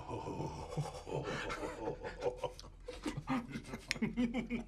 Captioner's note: laughing